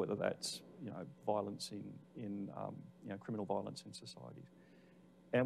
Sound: none

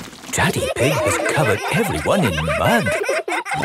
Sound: all laughing

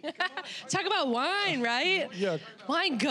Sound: laughing

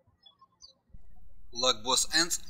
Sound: birds chirping

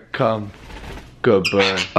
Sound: fluttering wings

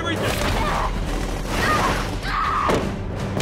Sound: screaming, thudding

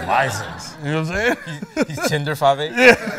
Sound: laughter

